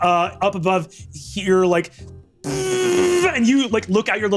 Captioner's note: vocalizes buzzing